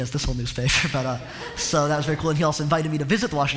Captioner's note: laughter